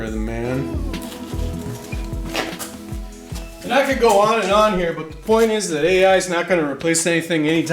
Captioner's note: ooooohhhhhh